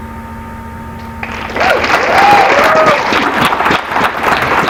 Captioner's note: applause